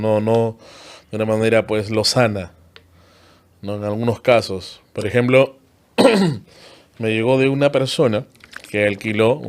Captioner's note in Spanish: carraspeo